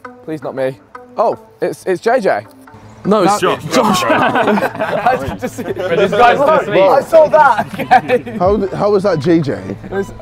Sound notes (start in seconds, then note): 3.3 men laughing; 5.5 men chatting